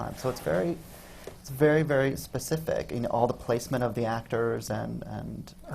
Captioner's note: none